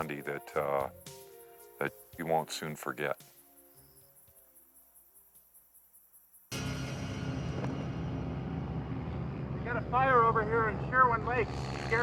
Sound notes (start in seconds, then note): 6.5 tense music; 6.8 plane whirring